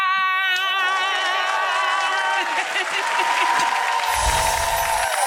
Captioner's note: audience cheers